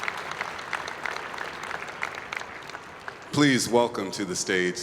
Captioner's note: applause